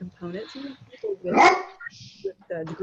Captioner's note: dog bark